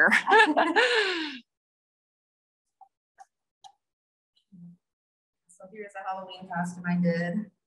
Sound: both laugh

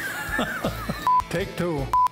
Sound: chuckles

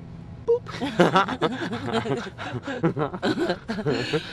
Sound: laughing

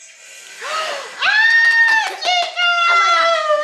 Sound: everyone cheers

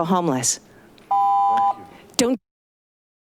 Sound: beeping; audio cuts out

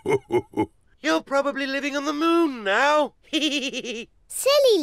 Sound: laughs; chuckles

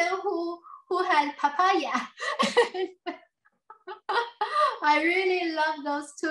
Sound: laughs

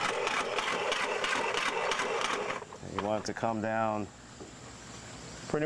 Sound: pan scrapes

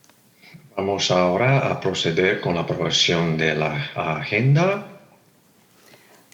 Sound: translator speaking in Spanish

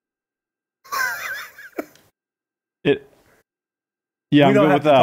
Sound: Chris laughs

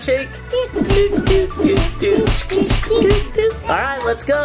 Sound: hands slapping

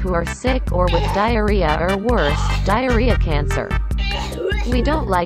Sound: coughs like crazy

